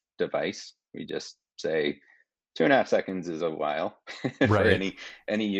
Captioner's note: chuckling